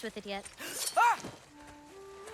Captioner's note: scream